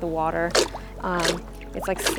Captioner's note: water sloshing